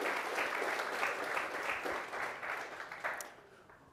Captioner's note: applause